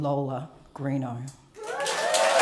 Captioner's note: cheering and applause